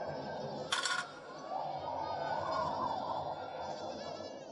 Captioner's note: metal clanging